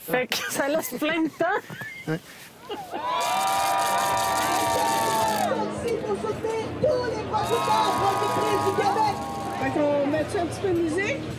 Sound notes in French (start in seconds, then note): 0.4 rires; 2.8 acclamations